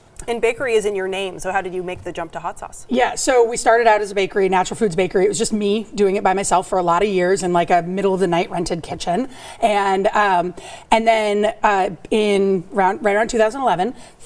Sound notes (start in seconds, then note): none